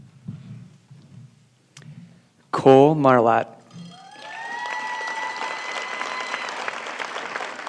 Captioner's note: applause